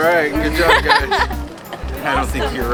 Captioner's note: laughing